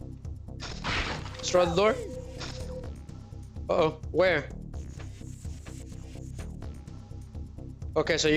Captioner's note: snorts